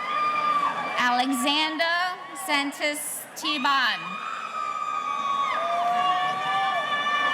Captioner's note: audience cheering